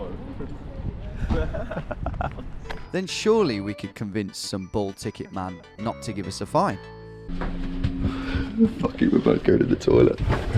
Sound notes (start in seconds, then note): 1.2 laughing